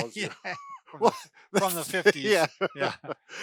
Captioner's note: laughs